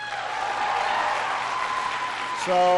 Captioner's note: applause